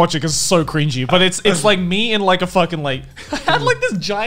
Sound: laughing loudly

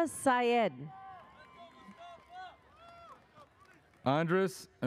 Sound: audience cheers

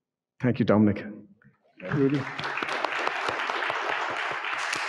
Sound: audience clapping

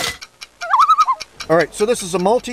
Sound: loon call

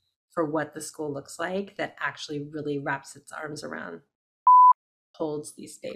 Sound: beep

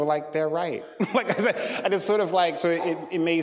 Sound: laughing

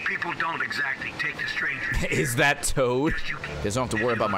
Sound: laughs

